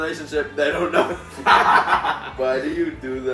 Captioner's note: laughing